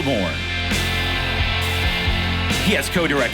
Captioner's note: audience applauding